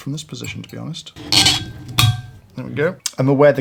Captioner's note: glass screeching